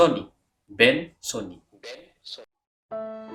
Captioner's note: Turkish